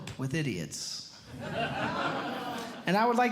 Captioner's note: audience Laughing